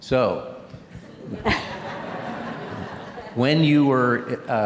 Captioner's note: laughter